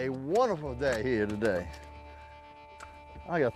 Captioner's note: hands slapping